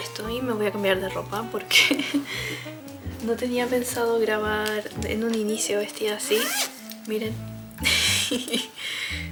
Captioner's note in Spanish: risas